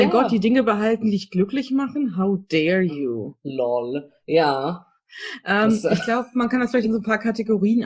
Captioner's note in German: lacht